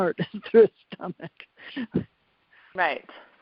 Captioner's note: laughs